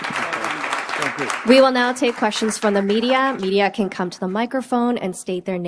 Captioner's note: applause